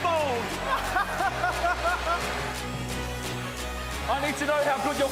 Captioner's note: laughs